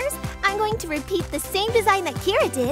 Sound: none

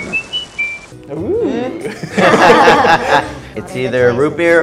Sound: all laughing

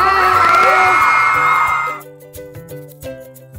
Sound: crowd cheers; gentle music

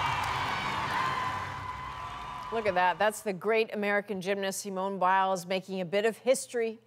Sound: cheers and Applause

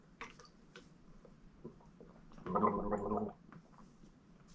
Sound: gurgling noise

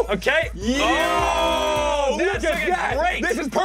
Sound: cheering; triumphant music

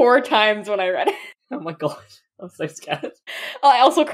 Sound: laughing

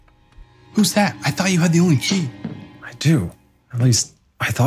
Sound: door opens; tense music

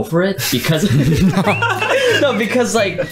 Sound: all laughing

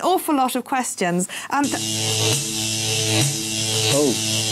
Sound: loud buzzing

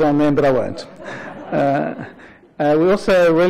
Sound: laughter

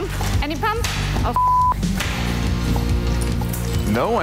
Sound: beeb

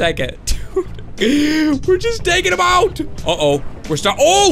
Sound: laughs

